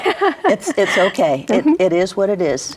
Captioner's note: laughs